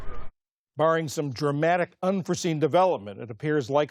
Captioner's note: voice-over